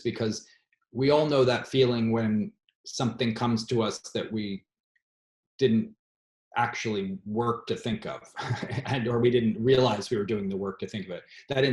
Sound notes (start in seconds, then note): 8.4 laughs